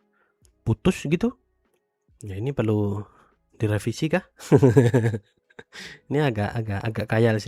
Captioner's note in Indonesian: tertawa